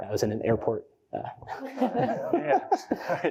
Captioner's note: laughter